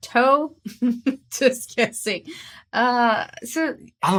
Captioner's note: snickers